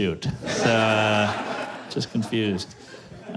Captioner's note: laughter